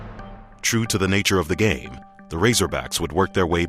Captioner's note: voiceover